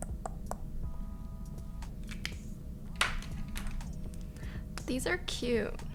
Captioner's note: mouth clicking